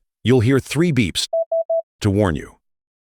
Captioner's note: beep - beep -beep